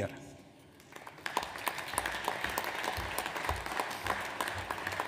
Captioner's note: audience applauds